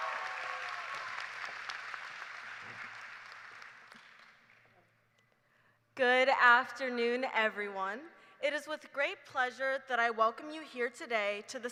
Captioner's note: cheers and applause